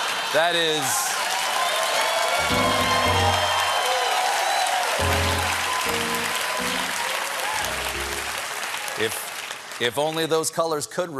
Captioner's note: cheers and applause